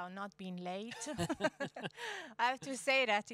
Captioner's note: laughing